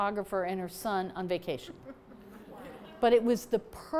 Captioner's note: laughter